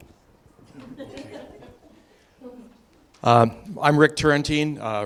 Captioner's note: audience laughing